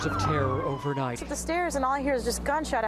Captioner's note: sirens blare